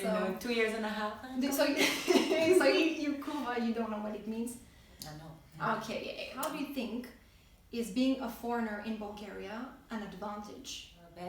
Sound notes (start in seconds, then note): 3.1 bulgarian